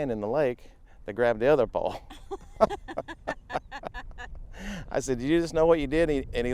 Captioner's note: laughing